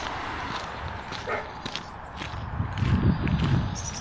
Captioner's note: woof woof